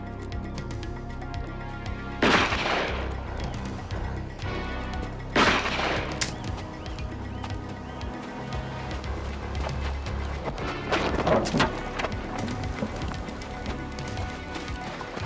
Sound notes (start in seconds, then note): 2.2 gun firing